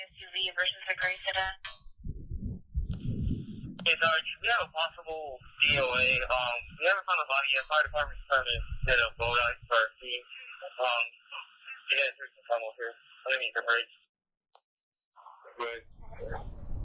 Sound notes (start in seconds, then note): 4.0 on police radio; 10.8 police radio chatter; 15.7 police radio chatter